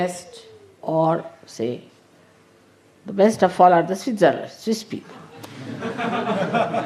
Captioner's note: laughter